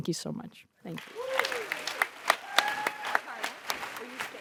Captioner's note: audience applauds and cheers